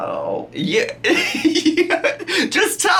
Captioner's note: laughs